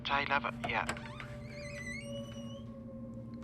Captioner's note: hinges squeak